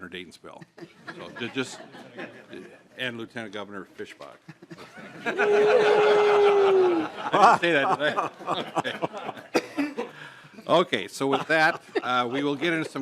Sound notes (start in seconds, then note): 4.4 laughter